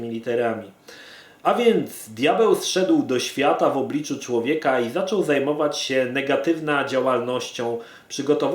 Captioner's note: broken Polish